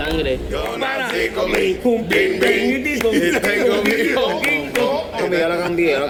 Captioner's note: singing; laughing